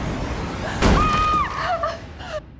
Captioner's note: intense music; Whitney screams